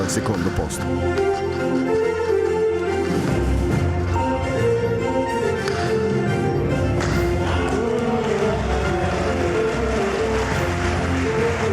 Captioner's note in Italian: Applauso